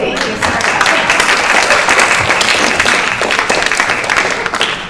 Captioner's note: applause